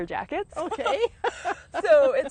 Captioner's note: laughs